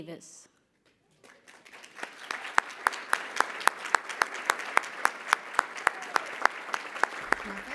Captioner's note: applause